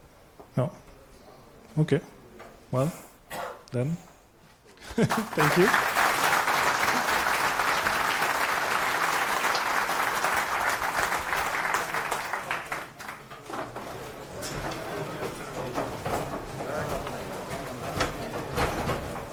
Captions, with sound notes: Oh, okay, well Then, thank you (applause) (chattering)